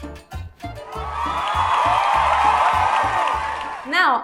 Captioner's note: cheers and claps!